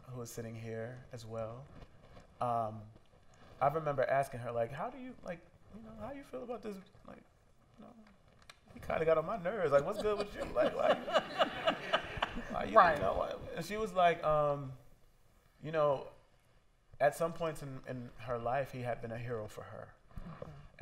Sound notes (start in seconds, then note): 9.7 laughter